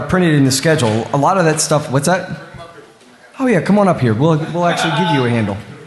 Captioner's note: off mic